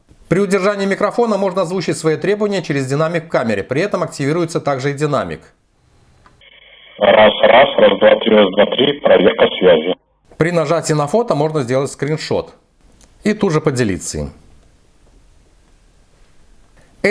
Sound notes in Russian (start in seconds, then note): 7.0 Звучит голос из динамика камеры